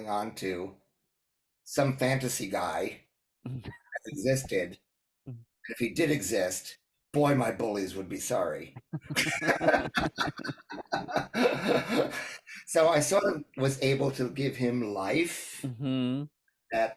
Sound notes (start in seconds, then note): 5.6 laugh